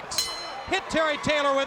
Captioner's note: bell ringing